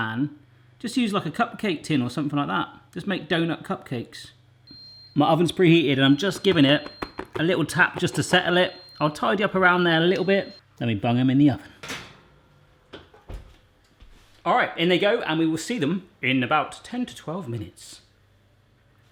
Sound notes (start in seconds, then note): 4.7 oven beeps